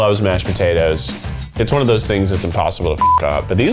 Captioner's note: beep